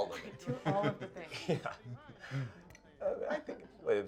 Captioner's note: group laughs